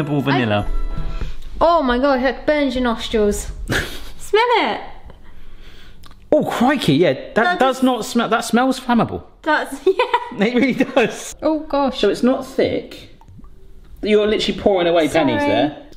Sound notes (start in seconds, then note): 9.8 laughs